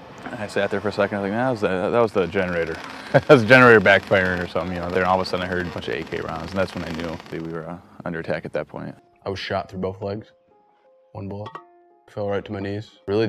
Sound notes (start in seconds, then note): 3.2 laughing